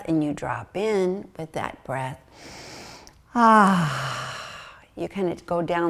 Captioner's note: breathes deeply